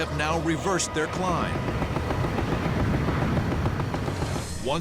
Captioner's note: gunshots